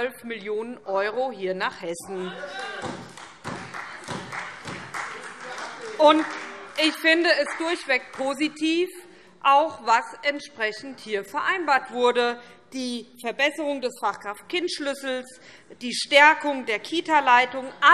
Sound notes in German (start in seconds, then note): 2.3 Beifall SPD